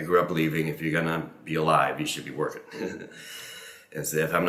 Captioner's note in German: lacht